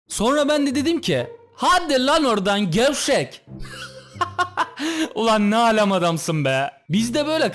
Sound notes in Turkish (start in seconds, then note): 3.6 gülme sesi